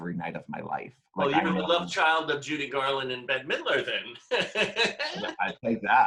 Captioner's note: laughs